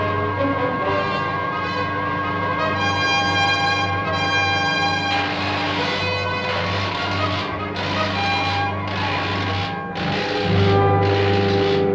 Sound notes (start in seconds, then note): 4.6 electricity crackling